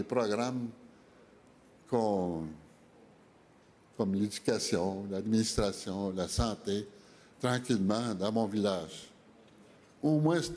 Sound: speaking French

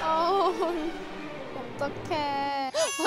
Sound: sob

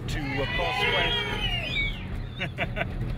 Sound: people shout and whistle; laughs

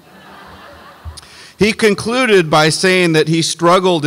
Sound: audience laughs

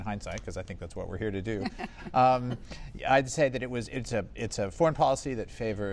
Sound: laughter

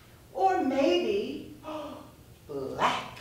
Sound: gasp

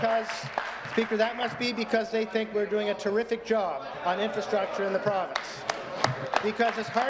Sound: applause

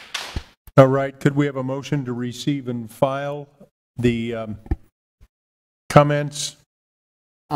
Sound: applause

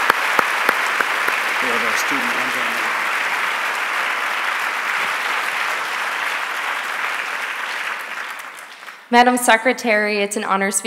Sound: applause

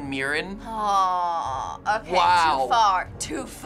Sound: groaning

